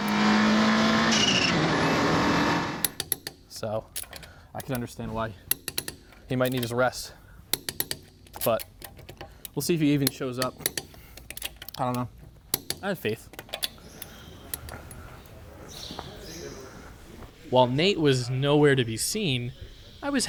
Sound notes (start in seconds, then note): 0.0 engine revving; 5.4 tool clacking